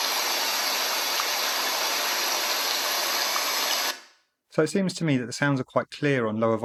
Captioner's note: white noise sound